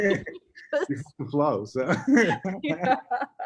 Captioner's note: both laughing